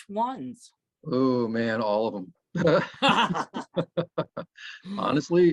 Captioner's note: laughs